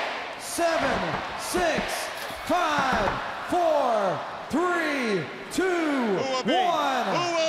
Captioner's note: crowd cheering